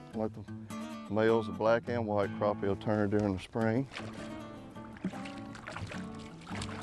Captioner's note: twangy acoustic music; water splashing